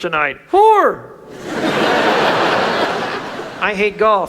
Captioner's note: audience laughs